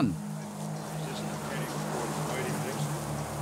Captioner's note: indistinct chatter